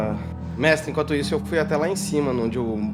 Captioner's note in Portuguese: none